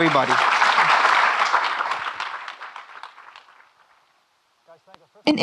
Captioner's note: audience clapping